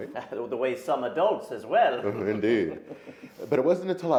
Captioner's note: laughs